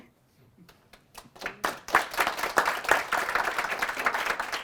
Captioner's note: applause